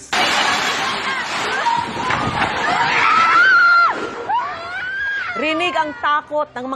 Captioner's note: shouting